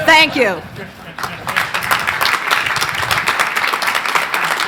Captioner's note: crowd applauding